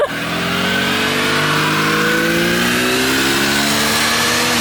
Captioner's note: car revving